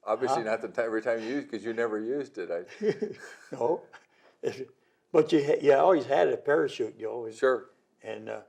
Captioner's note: laughter